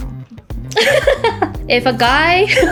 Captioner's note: laughing